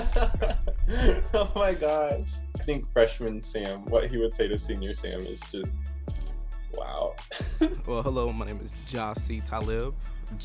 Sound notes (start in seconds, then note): 0.1 laughs; 7.3 laughs